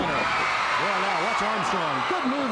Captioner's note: crowd cheering